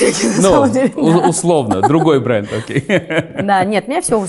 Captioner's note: laughs